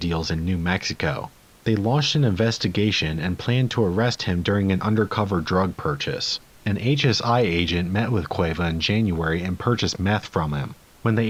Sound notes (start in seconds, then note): none